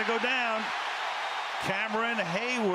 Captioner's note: cheering